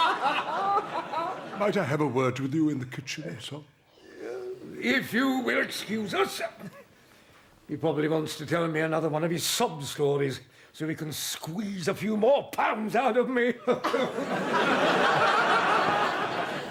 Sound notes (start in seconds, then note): 4.2 wails of laughter